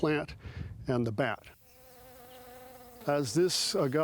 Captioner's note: bees buzzing